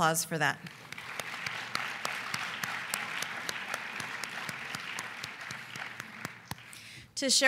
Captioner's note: applause